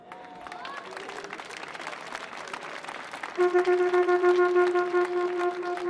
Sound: audience clapping; soft music

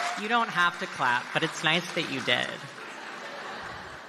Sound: applause

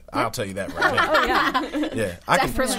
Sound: all laughing

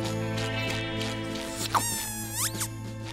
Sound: squeaking

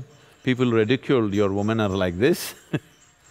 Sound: laughs

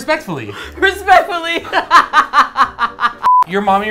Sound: laughs

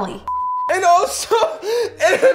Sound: beep

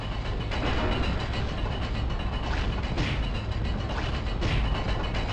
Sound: none

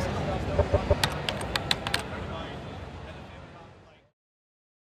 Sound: typing

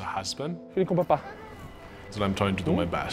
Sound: foreign language

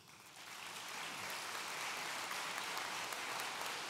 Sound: audience applauds

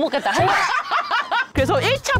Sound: couldn't hold the laughter

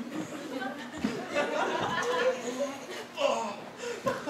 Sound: audience laughter

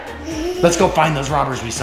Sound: giggles

